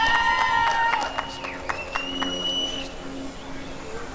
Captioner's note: applause and cheering